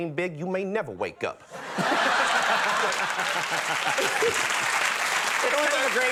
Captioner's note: audience laughing